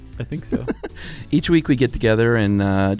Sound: laughing

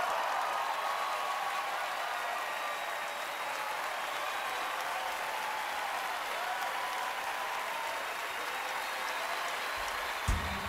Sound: cheering, applause

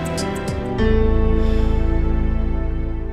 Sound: exhales

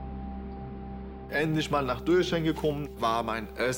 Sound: in German

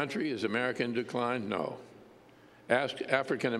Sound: none

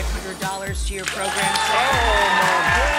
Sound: audience cheering

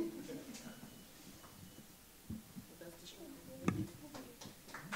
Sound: audience laughing

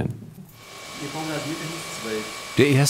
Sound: machine whirring

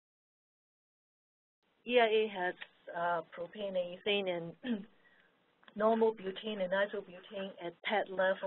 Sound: clears throat

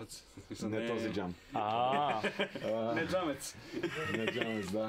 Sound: laughs

